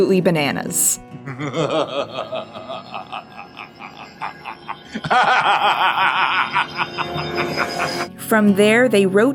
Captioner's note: Hugo Weaving's Agent Smith laughing maniacally